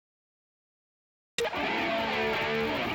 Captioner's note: crowd cheers